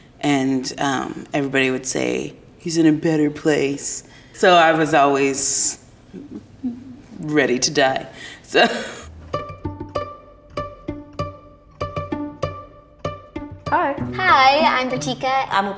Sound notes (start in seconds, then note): 6.6 parent laughs; 8.9 soft music